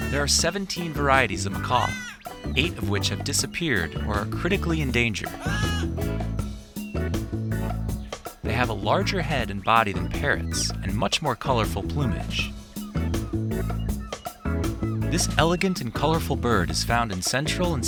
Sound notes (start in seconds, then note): 5.6 macaws squawking; 7.2 lively music